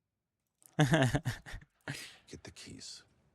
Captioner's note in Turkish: kahkaha